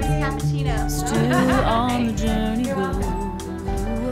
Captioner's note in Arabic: يضحك